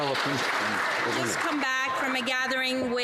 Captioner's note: some Applause